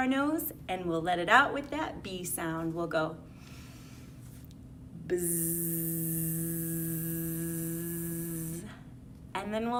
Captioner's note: takes a deep breath